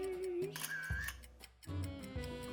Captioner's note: camera clicks; upbeat music